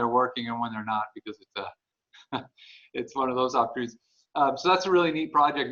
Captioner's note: laughs